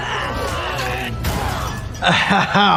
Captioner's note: Phase Two yelling; metal clattering; weapon smashing